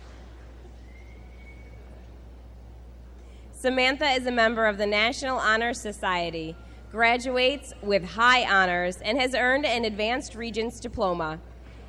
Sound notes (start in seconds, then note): none